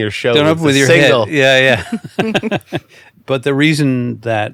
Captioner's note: laughing